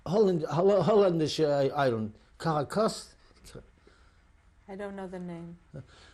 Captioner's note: non-english